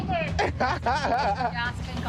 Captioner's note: laughs